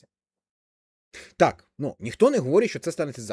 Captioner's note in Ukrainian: сопіння